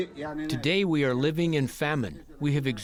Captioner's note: through translator